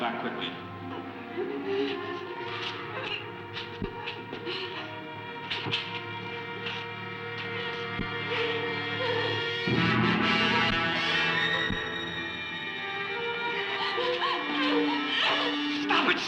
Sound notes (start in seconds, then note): 0.7 Ruth sobbing; 2.1 tense dramatic music; 11.0 tense dramatic music intensifies